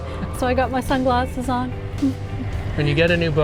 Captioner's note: laugh